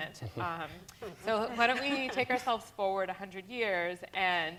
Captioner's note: laughter